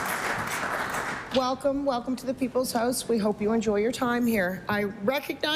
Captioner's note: applause